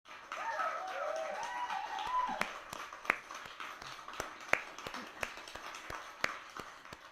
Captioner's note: clapping and cheering in the background